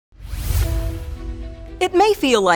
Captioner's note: air swooshes